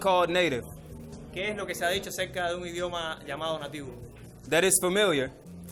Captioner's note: interpreter speaking in foreign language